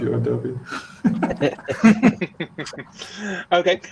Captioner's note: all laughing